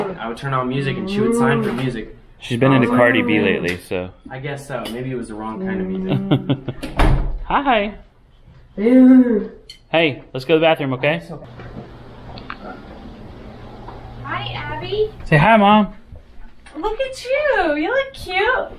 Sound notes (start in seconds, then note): 5.8 chuckles; 9.1 grunts